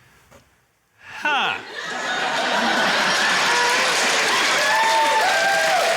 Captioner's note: cheering, applause, laughter